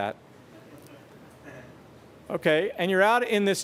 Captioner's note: chuckles